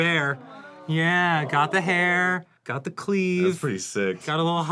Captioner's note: crew awes